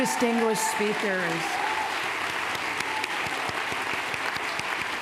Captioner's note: cheers, applause